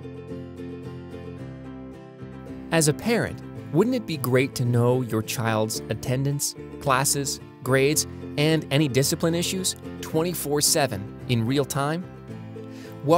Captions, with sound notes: - [Voiceover] As a parent, wouldn't it be great to know your child's attendance, classes, grades and any discipline issues, 24-7 in real time?